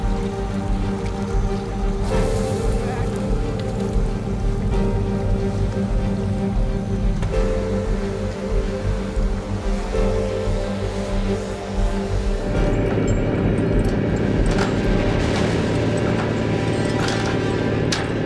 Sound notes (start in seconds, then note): 13.4 chains clanking